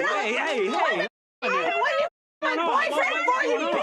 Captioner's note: yelling